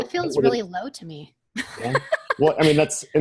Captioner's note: laughs